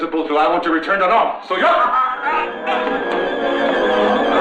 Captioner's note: groaning; tense music